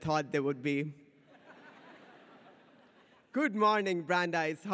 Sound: audience laughs

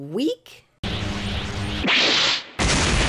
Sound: time travel noises; explosion

